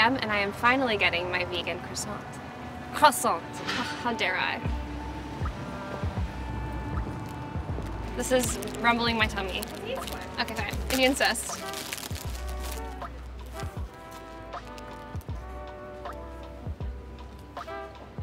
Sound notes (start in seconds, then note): 4.8 light music; 9.6 bag crinkles; 12.1 bag crinkles; 13.0 light music